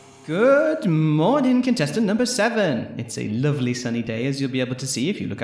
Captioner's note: tape recorder clicks on, static